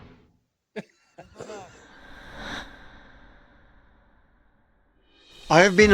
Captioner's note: Sasquatch hunters laughing